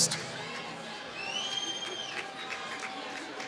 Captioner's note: applause